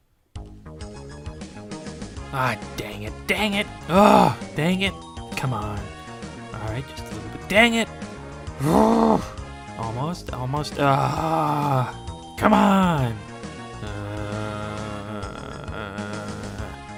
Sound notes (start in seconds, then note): 8.5 exasperated grumbling; 13.8 gruff